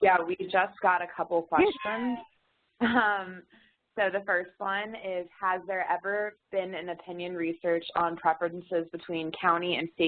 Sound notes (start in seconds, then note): 1.6 laughs